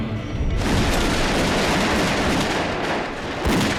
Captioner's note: gun shots